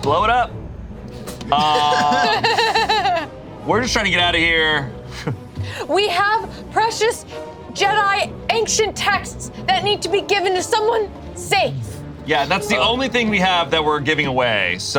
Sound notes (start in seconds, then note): 1.3 laughs